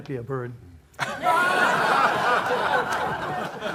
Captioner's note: raucous laughter